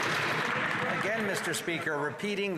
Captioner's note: some Applause